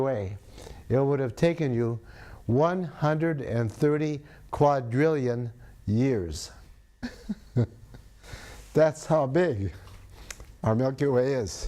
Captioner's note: laughs